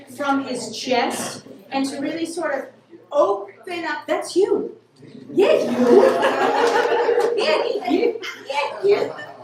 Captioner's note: laughter